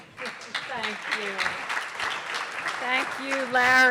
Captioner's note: audience applause